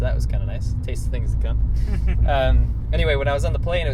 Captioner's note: laughs